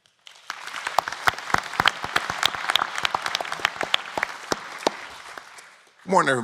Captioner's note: applause